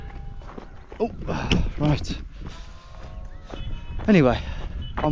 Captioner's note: groans